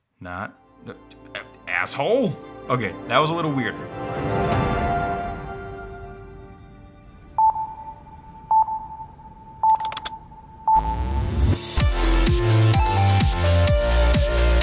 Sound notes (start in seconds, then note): 7.3 beeping; 10.7 upbeat music